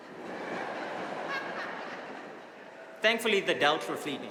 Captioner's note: audience laughing